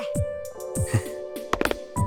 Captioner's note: bemused chuckle